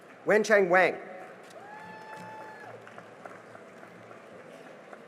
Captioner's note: cheering and applause